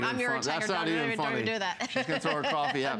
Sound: laughter

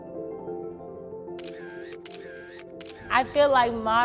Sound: piano music; camera shutter

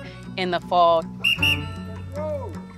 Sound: whistles blows

